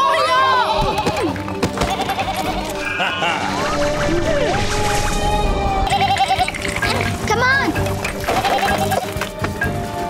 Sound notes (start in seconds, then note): 1.8 bleating; 2.2 Tobor chuckles; 8.9 bleating